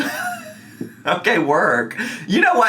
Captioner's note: laughing